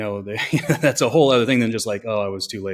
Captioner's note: laughs